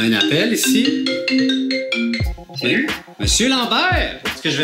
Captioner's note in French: sonnerie de visioconférence